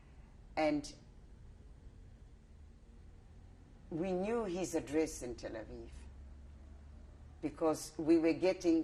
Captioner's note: pauses for 3 seconds